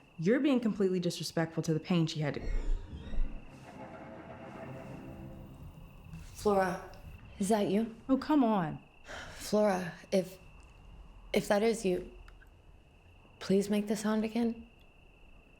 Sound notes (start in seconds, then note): 2.4 suspenseful music; 2.4 object scraping